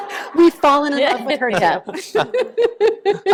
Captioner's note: laughter